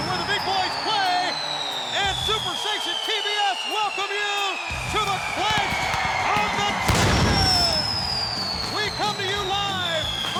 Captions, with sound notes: where the big boys play at SuperStation TBS welcome you to the Clash of the Champions. (fireworks booming) We come to you live